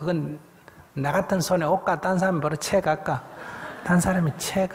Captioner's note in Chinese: 听众 笑